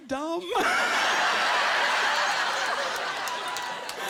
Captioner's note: laughter